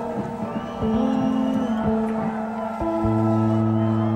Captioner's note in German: Pfiffe; Schreie